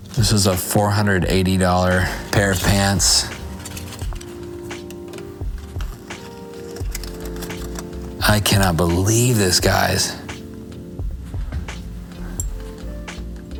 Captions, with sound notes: This is a $480 pair of pants. (tags rattling) I cannot believe this, guys,